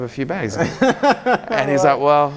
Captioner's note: laughing